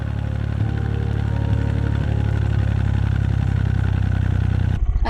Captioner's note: narrowboat engine sounds